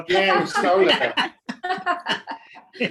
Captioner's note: laughing